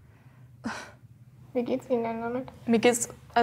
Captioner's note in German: Seufzen